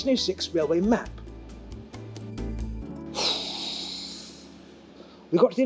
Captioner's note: sigh